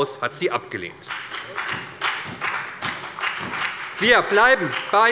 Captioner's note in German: Beifall bei der SPD und der FDP